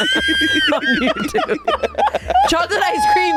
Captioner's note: all laughing